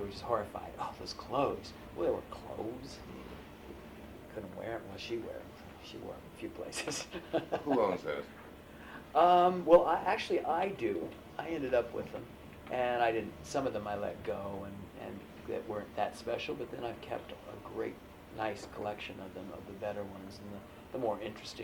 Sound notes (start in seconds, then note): 6.8 laughs